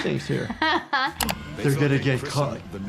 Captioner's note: laughing